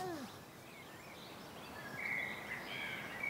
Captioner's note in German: Vogelgezwitscher